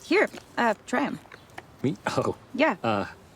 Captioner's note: chuckles